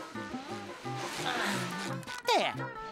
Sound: grunting

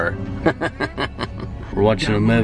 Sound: laughs

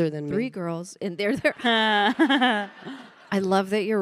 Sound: panelists and audience laughing

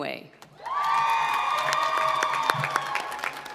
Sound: applause

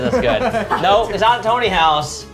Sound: laughs

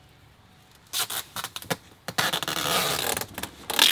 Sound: tape peeling

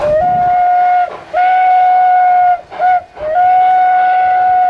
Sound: rotary whistling for grade crossing

